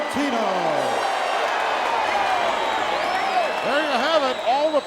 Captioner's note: audience cheering